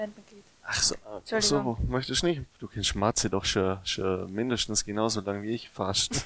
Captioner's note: laughter